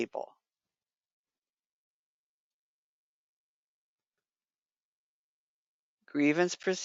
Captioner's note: 5 seconds pause